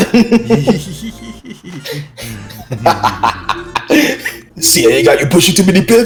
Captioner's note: laugh